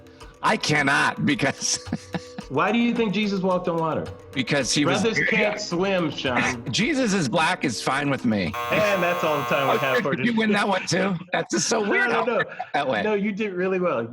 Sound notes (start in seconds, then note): 8.5 buzzer